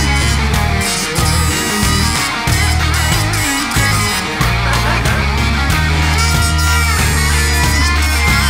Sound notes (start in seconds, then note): 4.7 laughing